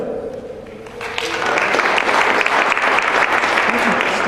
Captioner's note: applause